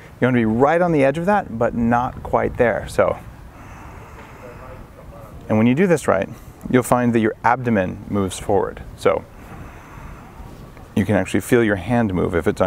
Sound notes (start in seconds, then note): 3.4 inhaling